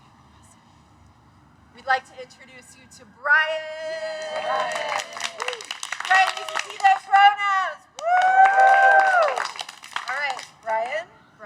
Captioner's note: cheers